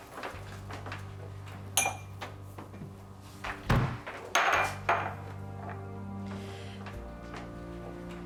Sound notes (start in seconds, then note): 5.1 clatter